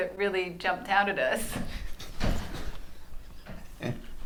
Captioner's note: laughs